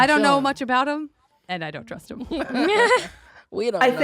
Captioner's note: chuckles